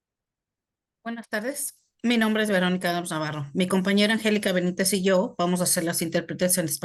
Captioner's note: speaking foreign language